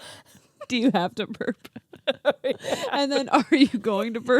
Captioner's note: both laugh